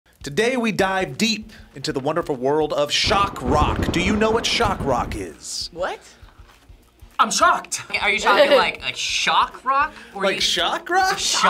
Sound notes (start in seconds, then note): 2.9 thunder crashes